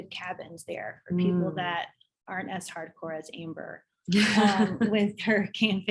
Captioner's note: laughs